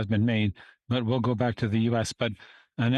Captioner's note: speaking French